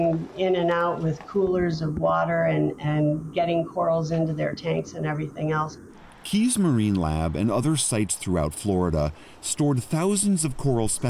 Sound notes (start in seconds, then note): 6.9 voice-over